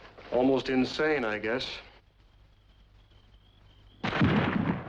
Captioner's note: estrondo de tiros